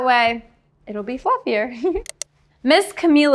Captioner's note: giggling